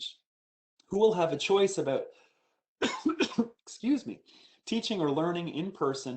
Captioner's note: coughs